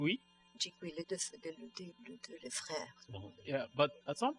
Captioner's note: speaking french